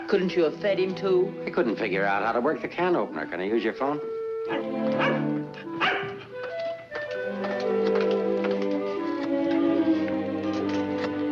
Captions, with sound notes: Couldn't you have fed him, too? - I couldn't figure out how to work the can opener. Can I use your phone? (dog barking) (light music)